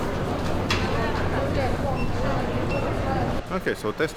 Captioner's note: indistinguishable chatter